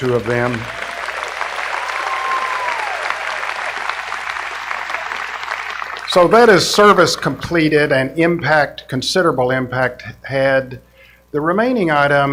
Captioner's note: applause